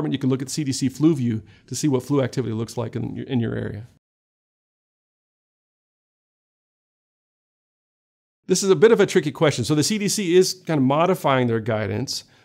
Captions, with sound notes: you can look at CDC flu view to see what flu activity looks like in in your area. [Silence] This is a bit of a tricky question. So the CDC is kind of modifying their guidance.